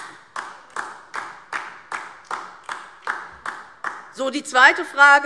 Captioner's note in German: Beifall DIE LINKE